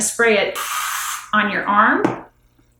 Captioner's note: can loudly sprays